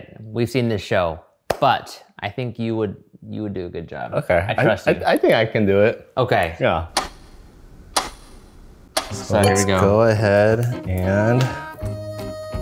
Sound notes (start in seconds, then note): 7.2 timer ticking